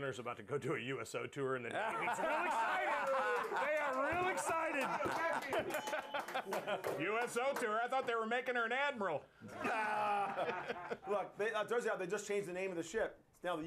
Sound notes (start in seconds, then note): 6.1 laughter; 6.4 bell rings